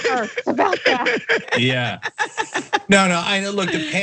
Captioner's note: laugh